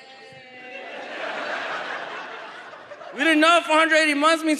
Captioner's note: audience laughs